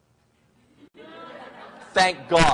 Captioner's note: crowd laughs